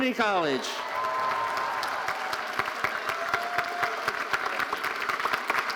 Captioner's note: audience cheering and applauding